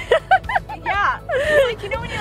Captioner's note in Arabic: يضحك